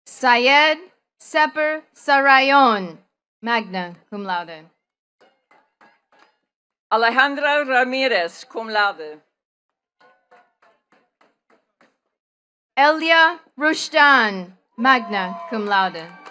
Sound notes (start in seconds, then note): 10.0 attendees clapping